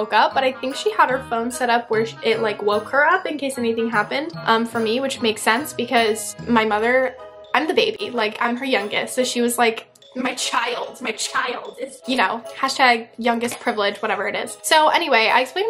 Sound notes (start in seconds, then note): none